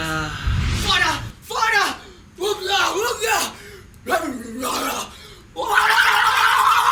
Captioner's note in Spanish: chilla como un poseso